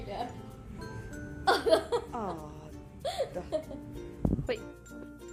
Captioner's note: laughing